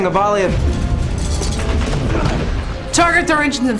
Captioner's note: explosion